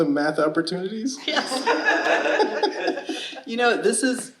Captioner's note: audience laughing